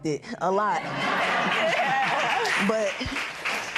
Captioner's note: laughter